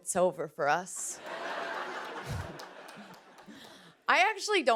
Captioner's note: laughter